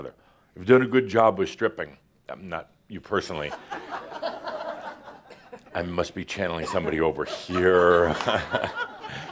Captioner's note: laughter